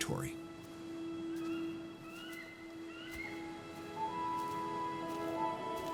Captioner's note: birds chirping